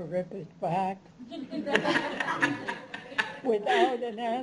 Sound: laughter

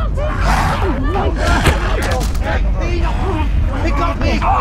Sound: John growling

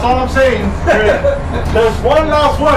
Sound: laughs

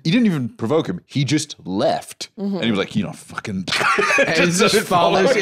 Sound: laughs

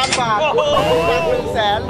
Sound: laughs; mocking

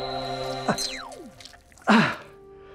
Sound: chip beeps

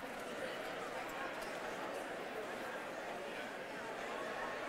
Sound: crowd chattering

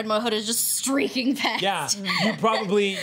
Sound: laughs

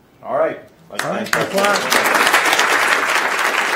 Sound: audience applauds

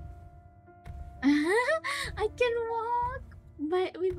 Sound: laughs

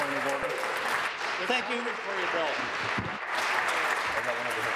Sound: applause

